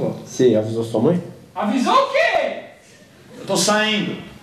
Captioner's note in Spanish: voz femenina distante